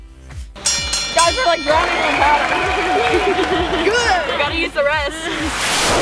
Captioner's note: bell rings; applause